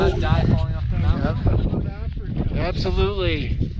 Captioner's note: laughing